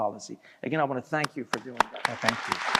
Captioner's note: applause